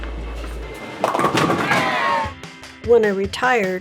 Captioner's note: pins thudding; everyone cheers